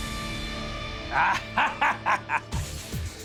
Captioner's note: laughs